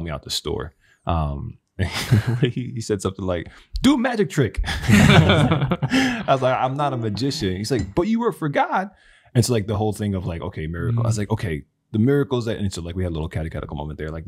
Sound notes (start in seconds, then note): 4.6 all laughing